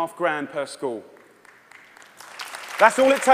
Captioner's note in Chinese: 掌聲